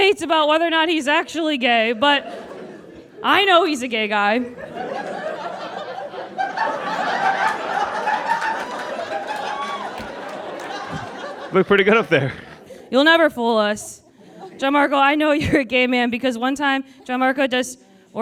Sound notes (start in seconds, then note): 5.0 audience giggles; 6.5 laughter intensifies